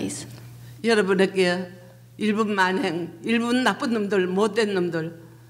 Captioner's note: speaking foreign language